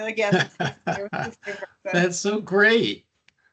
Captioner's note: laughing